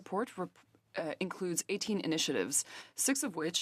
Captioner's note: speaking in French